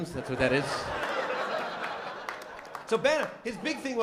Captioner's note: laughter